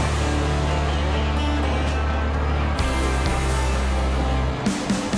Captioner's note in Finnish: Aplodeja